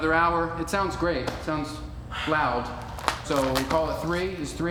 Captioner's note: plastic jacket squeaking